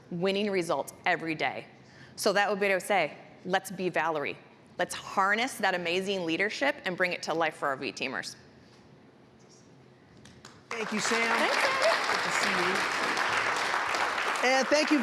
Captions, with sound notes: RESULTS EVERY DAY. SO THAT WOULD BE WHAT I WOULD SAY, LET'S BE VALERIE. LET'S HARNESS THAT AMAZING LEADERSHIP AND BRING IT TO LIFE FOR OUR V TEAMERS. >> THANK YOU, SAM. [APPLAUSE]>> AND THANK YOU VERY MUCH.